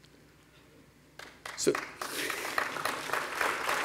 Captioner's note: applause